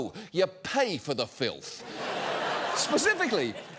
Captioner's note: audience laughing